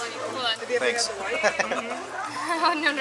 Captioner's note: laughter